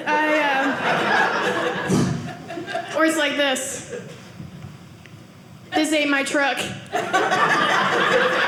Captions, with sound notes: (audience laughing) Or it's like this. This ain't my truck.